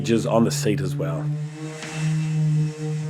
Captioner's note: electric sander sound